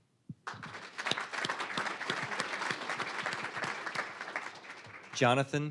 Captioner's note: applause